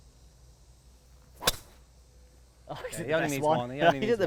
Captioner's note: crisp golf drive